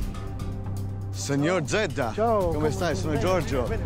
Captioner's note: both speaking Italian